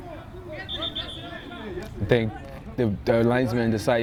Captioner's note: whistle